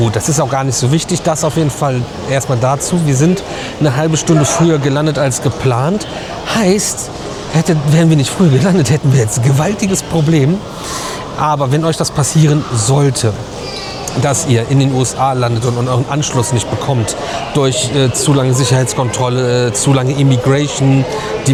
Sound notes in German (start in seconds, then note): 10.6 schnauben